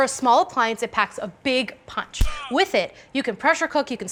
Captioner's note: pow!